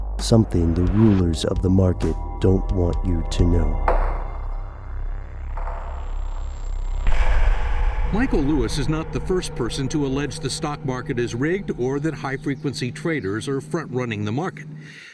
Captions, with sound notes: Something the rulers of the market don't want you to know. (creepy music) - [Voiceover] Michael Lewis is not the first person to allege the stock market is rigged or that high frequency traders are front running the market.